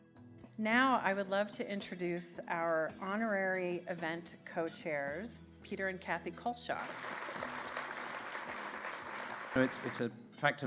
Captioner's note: clapping